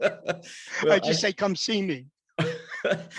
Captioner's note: laughs